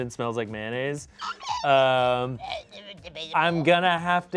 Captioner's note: vocalizes